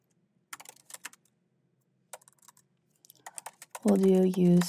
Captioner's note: keyboard clacking